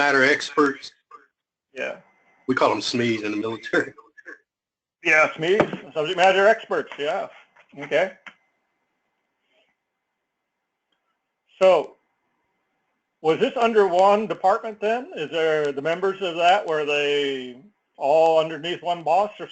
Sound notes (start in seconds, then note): 3.8 laugh